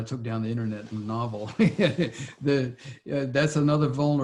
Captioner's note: laughs